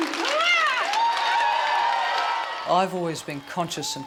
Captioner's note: applause